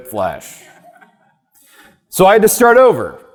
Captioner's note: audience member laughing